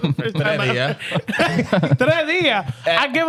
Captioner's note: speaking In Foreign Language